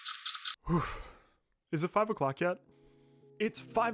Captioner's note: breathes out